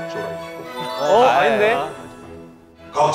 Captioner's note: laughter of fear